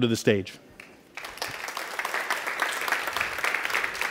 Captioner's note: applause